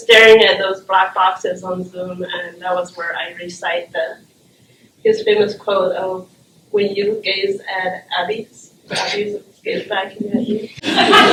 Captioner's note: laughter